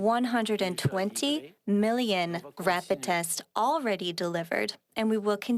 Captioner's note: speaking French